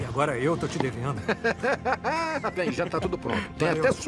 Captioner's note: Tambwe laughs